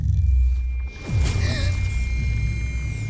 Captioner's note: hollow echo sound; gasps; hollow echo sound